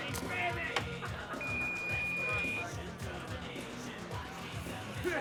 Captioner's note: beeping